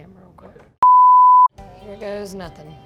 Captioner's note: beep